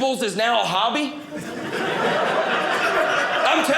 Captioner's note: audience laughing